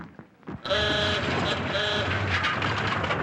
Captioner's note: laughs; honking